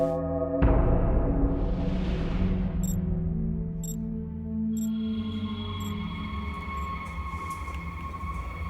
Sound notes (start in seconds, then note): 2.4 beeping